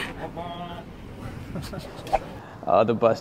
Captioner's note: laughter